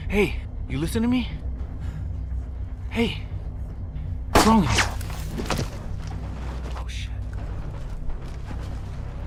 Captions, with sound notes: Hey, you listen to me? Hey, what's wrong? (gun fires) (body thuds) Oh shit!